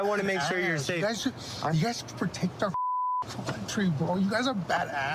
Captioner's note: beep